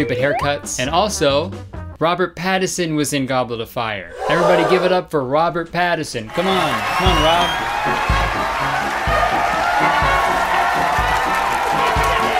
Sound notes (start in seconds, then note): 7.8 crowd cheering